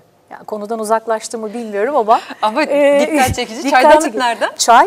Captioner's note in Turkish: kahkaha